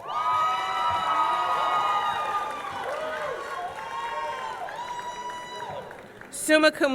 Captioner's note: audience cheering; audience clapping